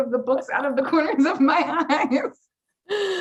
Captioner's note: laughs